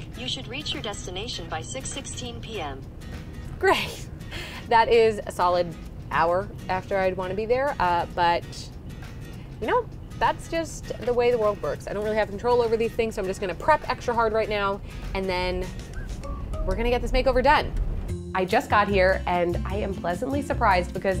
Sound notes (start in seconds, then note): 4.1 laughs